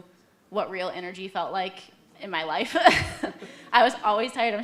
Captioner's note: laughs